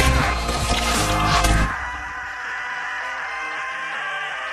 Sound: emmet continues screaming

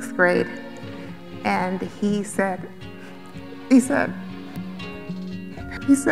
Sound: crying

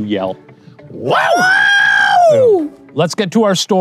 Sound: whooping

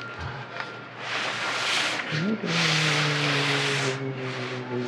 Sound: humming

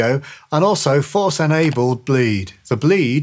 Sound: computer mouse clicks

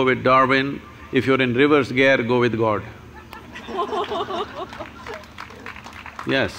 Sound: laughter/Applause

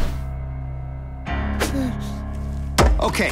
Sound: whimpers

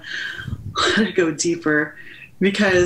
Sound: sighing

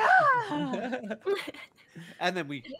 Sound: laugh

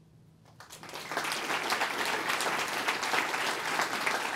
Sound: applause

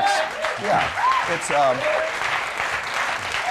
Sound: crowd cheers

